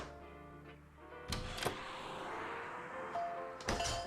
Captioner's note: hammering; door opens; door bell